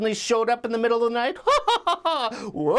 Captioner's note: laughs